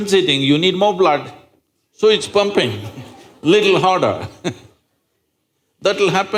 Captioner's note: laughs